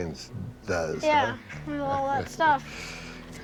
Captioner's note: chuckles